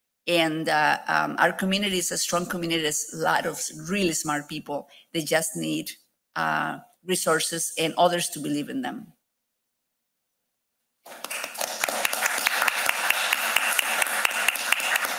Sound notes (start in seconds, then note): 11.0 audience applauding